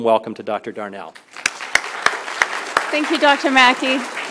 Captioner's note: applause